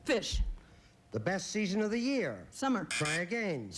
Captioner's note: buzz buzz